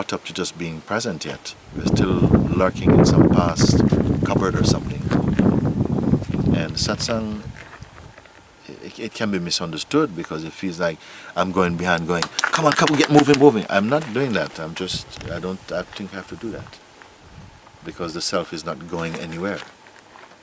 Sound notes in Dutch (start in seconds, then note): 12.0 klapt in handen